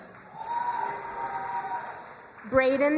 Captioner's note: crowd cheering and applauding